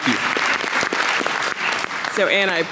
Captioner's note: audience clapping